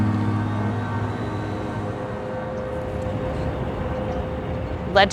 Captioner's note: traffic noises